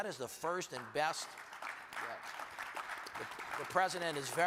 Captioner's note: audience applauds